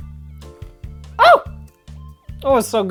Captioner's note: higher pitched